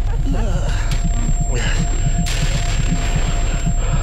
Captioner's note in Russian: звон в ушах